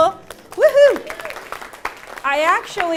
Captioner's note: applause